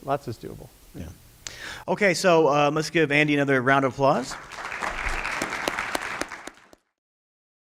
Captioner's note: applause